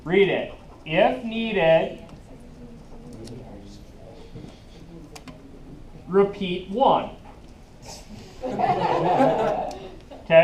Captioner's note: laughing